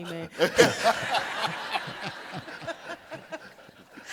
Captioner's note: audience laughing